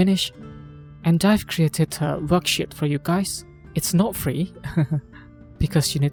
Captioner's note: chuckles